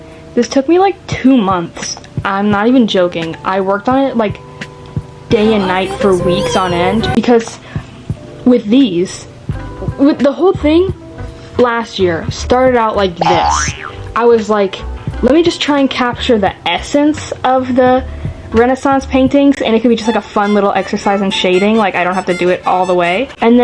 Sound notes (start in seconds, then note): 5.4 kitten screaming; 13.2 boing